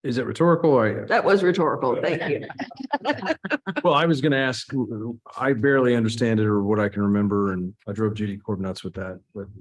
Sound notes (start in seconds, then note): 1.9 laughs